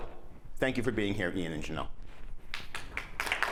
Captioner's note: applause